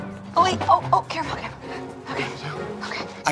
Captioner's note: gasping